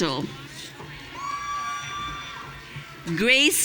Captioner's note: audience cheering